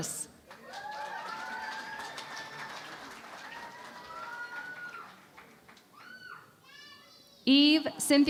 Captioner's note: cheering and Applause